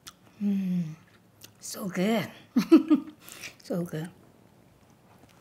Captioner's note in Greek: γέλιο